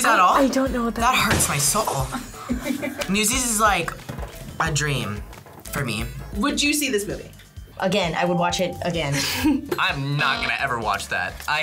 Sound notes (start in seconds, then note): 9.0 laughs